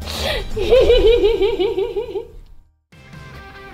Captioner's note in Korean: 웃음